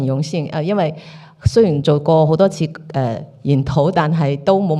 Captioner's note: Cantonese